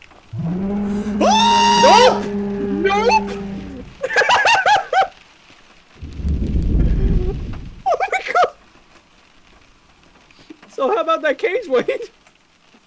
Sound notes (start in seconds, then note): 0.3 Bigfoot Growls; 0.9 screams; 3.9 laughs; 6.0 thunder